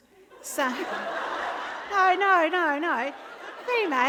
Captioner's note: laughter